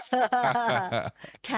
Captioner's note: laughing